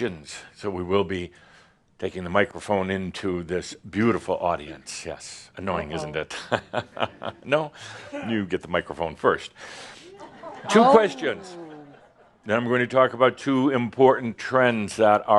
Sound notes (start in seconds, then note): 6.2 someone says “Uh oh,” laughs; 9.6 laughter